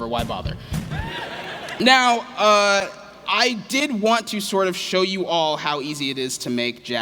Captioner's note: laughter